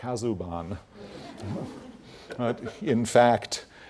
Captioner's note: laugh